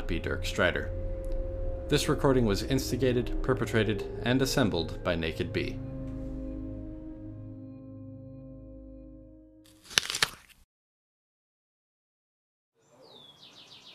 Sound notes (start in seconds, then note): 9.6 crunch